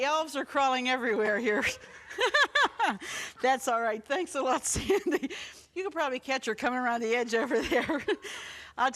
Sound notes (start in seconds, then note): 1.3 laughs